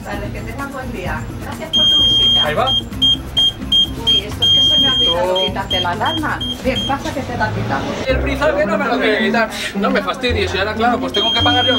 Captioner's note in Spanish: Pitido